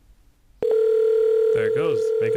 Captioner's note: cell phone ringing